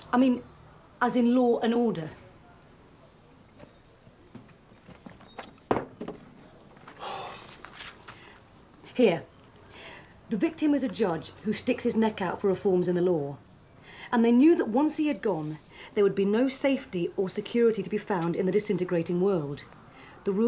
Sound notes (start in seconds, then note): 7.0 Phil sighing heavily